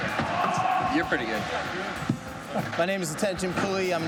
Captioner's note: chuckling